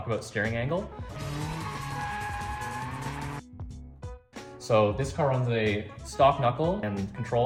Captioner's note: tires screeching